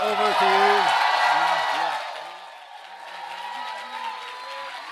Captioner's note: crowd cheering